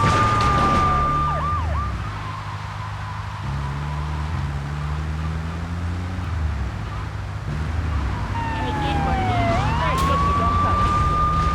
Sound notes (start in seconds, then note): 7.8 tires screeching